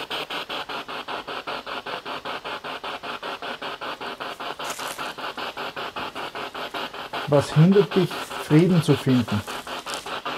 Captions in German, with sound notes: [Noise of the spiritbox in the background] What is preventing you from finding peace?